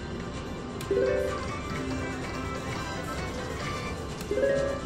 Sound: machine beeps

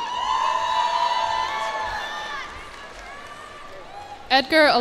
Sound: cheers and applause

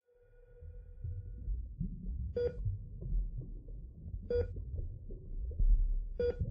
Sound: medical monitor beeping; bubbles under water

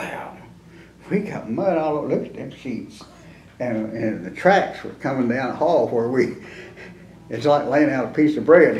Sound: laughs

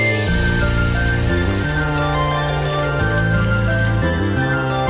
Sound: water pattering

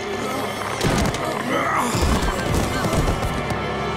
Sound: grunting

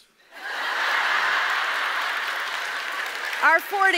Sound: audience laughs

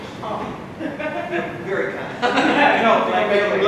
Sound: laughing

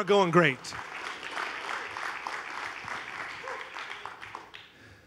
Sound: congregation applauding

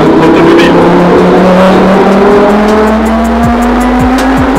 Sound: engine roaring

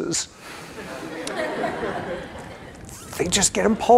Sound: laughter

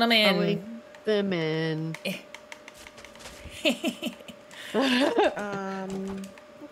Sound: laugh

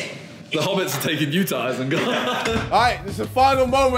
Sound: laughs

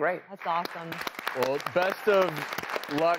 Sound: audience applauding

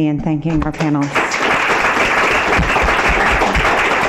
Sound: applause

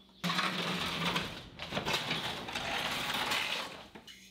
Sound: pallet rasping

